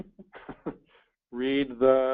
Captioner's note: laughs